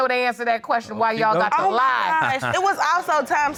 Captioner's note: laughs